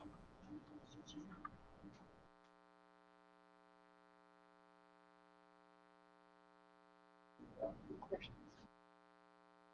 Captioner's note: no audio, muted mike